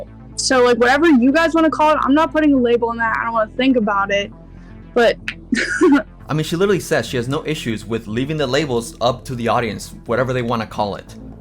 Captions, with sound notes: So, like, whatever you guys want to call it, I'm not putting a label on that, I don't want to think about it, but... [chuckles]" I mean, she literally says she has no issues with leaving the labels up to the audience, whatever they want to call it.